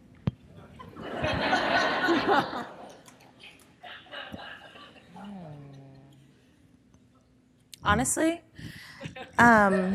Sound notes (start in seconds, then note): 0.8 audience laughing